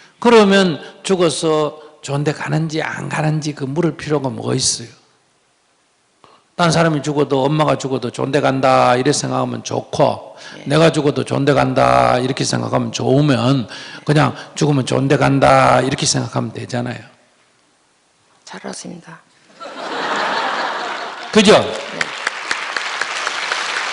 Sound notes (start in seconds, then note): 19.6 audience Laughter